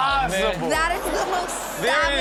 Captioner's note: audience laughs